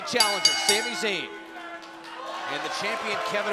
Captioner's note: bell ringing